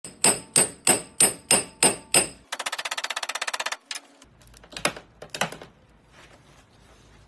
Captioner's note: hammer sound